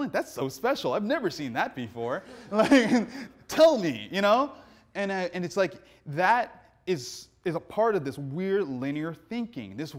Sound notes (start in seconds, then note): 2.2 laughs; 2.2 audience laughing